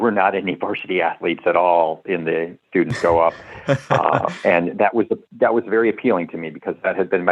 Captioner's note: laughter